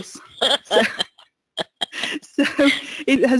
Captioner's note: laughs